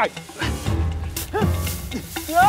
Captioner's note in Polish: okrzyk Szymona